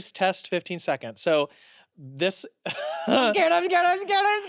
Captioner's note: laughs